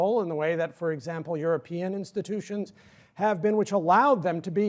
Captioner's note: sigh